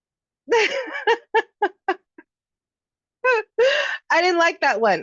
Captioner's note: laughing